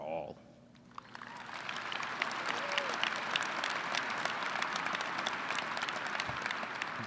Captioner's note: applause